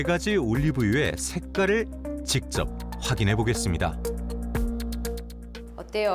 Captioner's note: voiceover